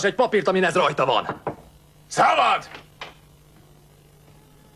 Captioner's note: knock on door